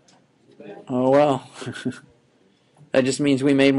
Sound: chuckling

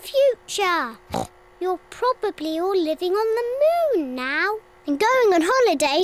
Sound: oinks

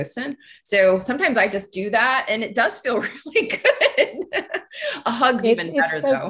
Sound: laughs

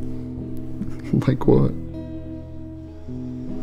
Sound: gently laughs

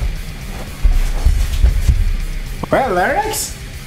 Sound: angy footstep noises

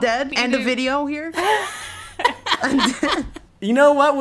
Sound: laughing

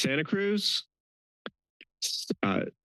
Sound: pause

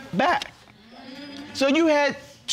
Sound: audience murmuring in agreement

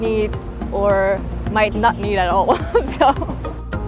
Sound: laughs

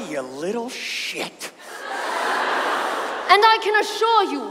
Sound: audience laughs

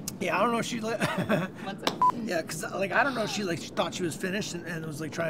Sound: laughs

